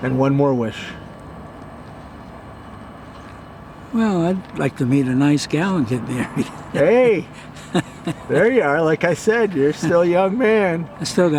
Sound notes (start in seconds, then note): 6.1 laughs